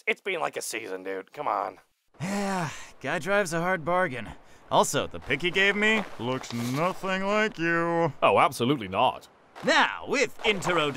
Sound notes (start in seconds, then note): 2.2 sighing; 6.2 sotto voce